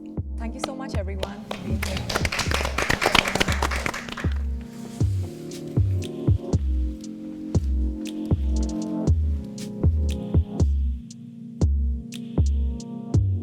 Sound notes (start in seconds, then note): 1.2 everyone claps; 4.9 calming music